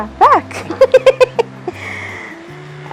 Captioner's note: nervous laughter